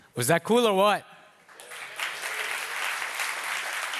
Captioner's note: applause